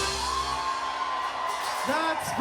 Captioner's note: audience applauds and cheers